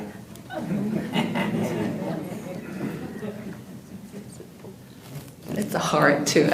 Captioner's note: audience Laughter